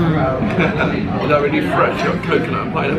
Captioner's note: laughing